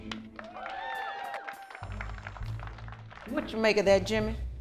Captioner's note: group applauds; group cheers